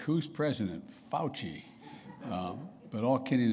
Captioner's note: laughter